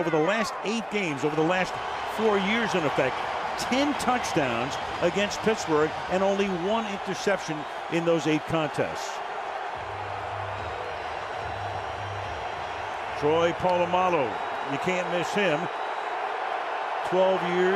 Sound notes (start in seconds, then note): 9.5 crowd cheering